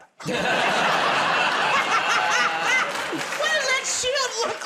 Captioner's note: laughter